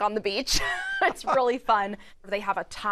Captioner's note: laughs